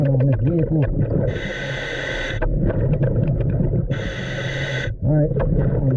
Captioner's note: water bubbling; mouthpiece hissing